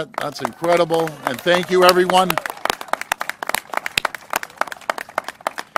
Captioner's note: applause